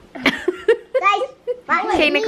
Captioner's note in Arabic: يضحك